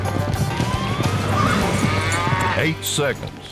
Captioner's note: steer moos